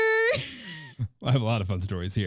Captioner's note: laughing